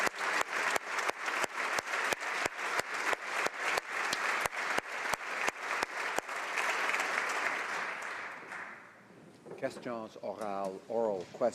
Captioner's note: applause